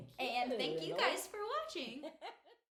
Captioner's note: laughing